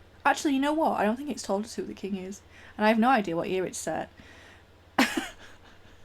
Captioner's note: laugh